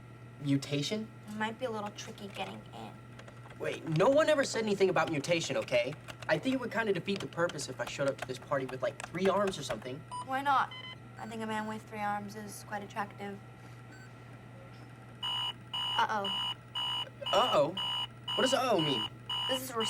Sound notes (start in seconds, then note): 15.2 beeping